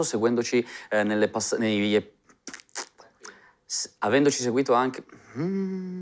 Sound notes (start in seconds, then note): 2.4 blows raspberry; 5.1 frustrated sound